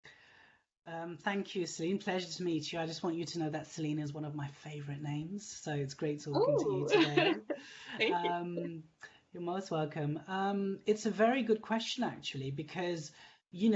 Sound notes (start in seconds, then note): 6.3 laughing